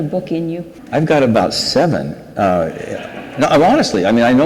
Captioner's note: audience laughs